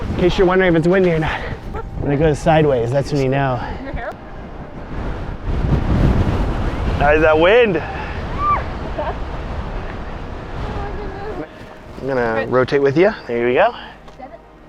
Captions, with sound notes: In case you're wondering if it's windy or not. When it goes sideways, that's when you know. (wind gusting) That wind! I'm going to rotate with you. There you go.